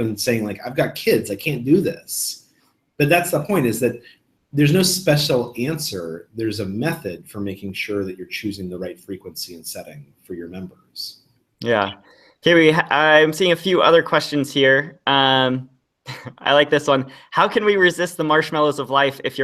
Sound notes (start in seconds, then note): 16.1 laughs